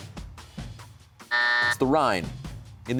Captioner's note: buzzer sounds